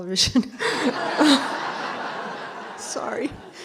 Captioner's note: laughter